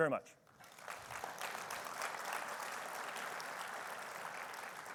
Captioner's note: attendees applauding